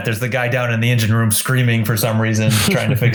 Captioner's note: giggles